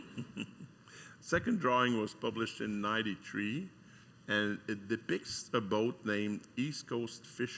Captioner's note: giggling